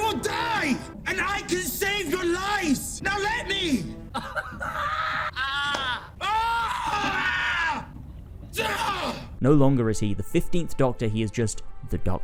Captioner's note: pained laughter